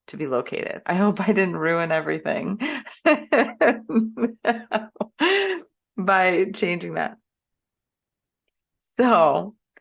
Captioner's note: laughs